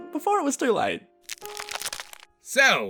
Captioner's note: crack forming